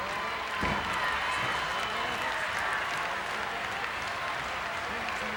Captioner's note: audience clapping